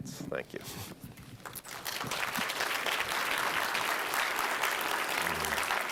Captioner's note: applause